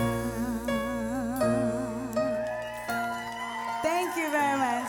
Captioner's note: applause